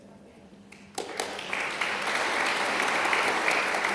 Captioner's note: applause